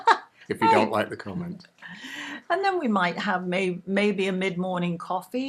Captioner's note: laughing